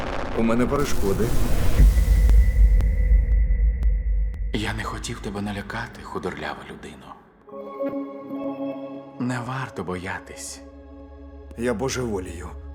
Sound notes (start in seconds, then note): 4.2 echoing voice